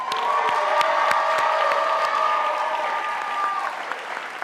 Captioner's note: audience applauding